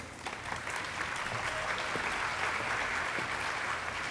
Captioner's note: audience applauding